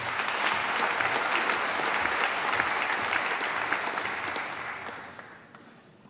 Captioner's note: applause